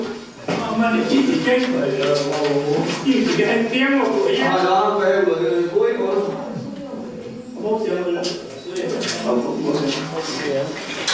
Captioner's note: speaking Hoisan-wa